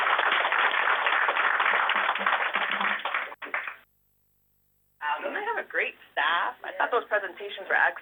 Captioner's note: applause